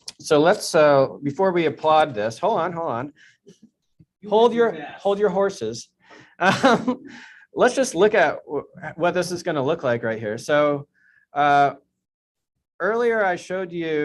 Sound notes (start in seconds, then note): 6.4 chuckles